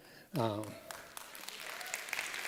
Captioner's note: applause